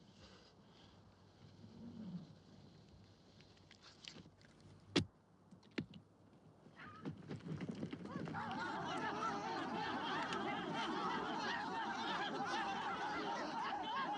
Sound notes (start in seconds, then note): 8.2 excited chattering